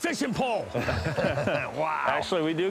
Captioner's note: laughter